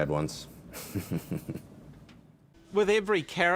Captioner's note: chuckles